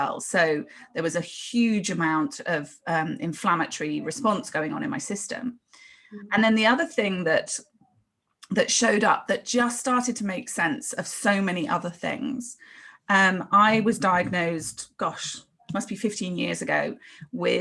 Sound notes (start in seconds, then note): none